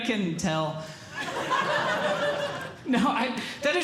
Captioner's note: audience Laughing